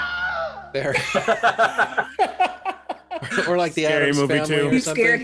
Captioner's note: plays a wilhelm scream